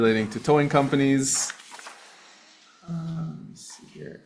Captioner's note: pages flipping